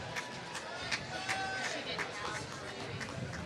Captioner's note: applause